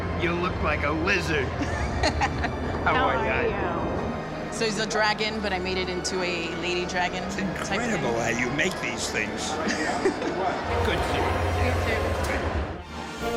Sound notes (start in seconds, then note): 1.6 laughs; 9.6 laughs